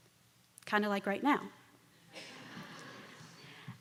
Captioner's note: laughter